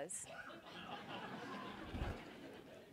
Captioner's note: laughter